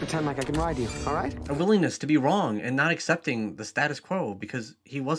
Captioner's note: voiceover